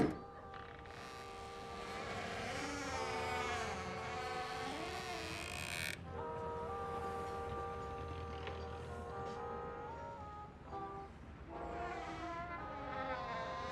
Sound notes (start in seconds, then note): 1.7 door squeaking